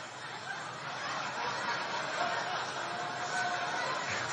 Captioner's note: audience laughing